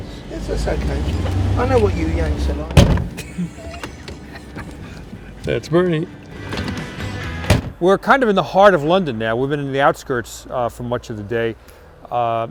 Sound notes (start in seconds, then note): 2.7 door shutting; 3.1 laughing; 7.3 door closing